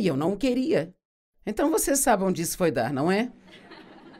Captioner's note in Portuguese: audiência ri